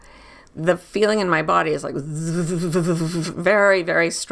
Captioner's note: buzzing